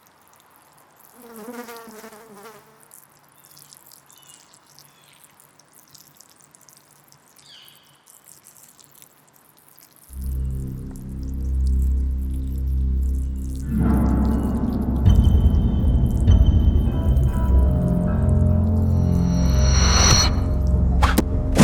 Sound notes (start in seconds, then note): 1.2 flies buzzing; 5.6 pee splashing; 10.4 ominous music; 18.5 ominous music continues; 21.4 head slams